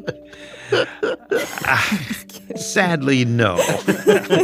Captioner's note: laughs